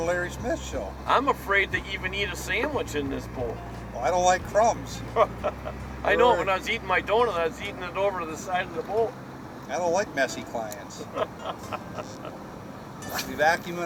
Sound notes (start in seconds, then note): 1.7 voiceover; 6.4 voiceover; 10.9 laughter